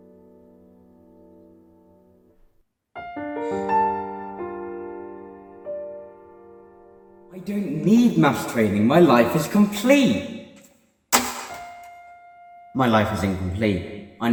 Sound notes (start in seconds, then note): 3.4 sigh